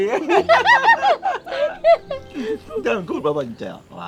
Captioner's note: both laughing